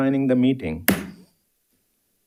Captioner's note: hammer slamming